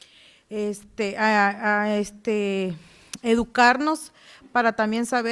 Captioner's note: speaking Spanish